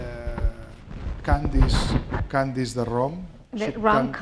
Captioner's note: speaking spanish